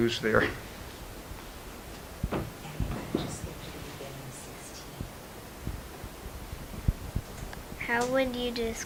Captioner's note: silence, some indistinguishable whispering off-camera